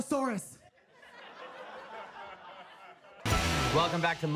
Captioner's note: audience laughs